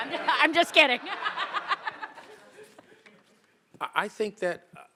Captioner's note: all laughing